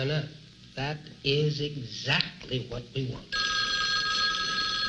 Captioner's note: phone ringing